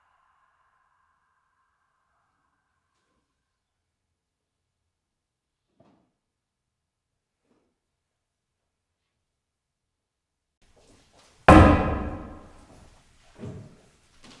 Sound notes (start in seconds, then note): 11.5 pole thuds